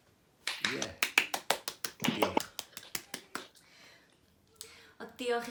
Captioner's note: applause